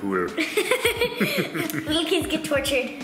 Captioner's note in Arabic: يضحك